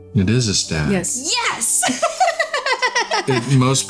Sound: laughing

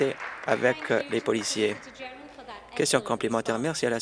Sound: applause

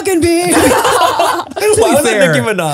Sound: everyone laughs

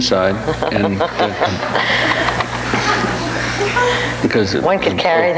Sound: audience laughs

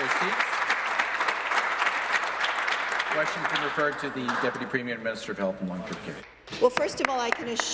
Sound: applause

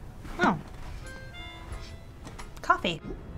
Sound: sniffs

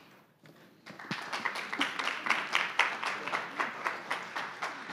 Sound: audience applauding

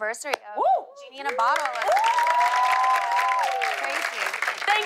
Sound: cheers and applause

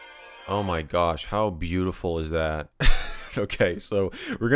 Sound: chuckles

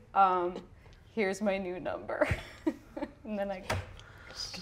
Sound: laughs

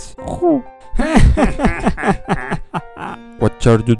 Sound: evil laughs

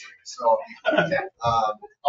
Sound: people chuckle

